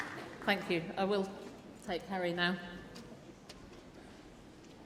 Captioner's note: applause